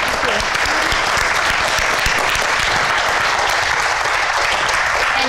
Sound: applause

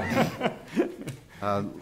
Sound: laughing

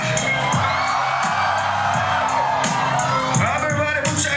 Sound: cheering

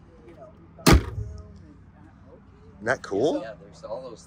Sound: front trunk thuds

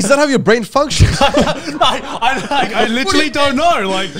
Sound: all laughing

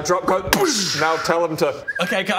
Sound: whistle

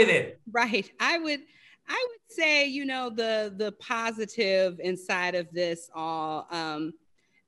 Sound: laugh

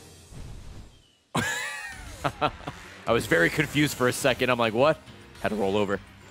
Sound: laughs

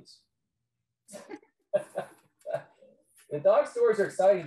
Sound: laughing

